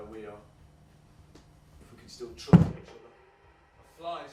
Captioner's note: loud thud